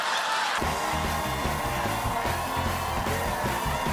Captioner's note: laughter